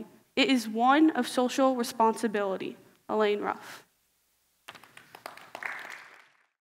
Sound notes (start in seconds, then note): 4.6 applause